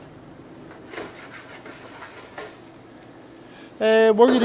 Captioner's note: pan rustling